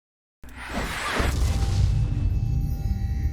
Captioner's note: whoosh